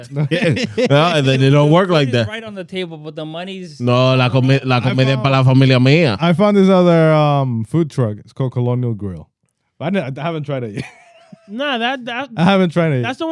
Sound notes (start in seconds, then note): 0.0 laughing; 3.8 speaking In Foreign Language